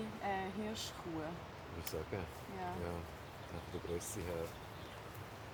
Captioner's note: chatting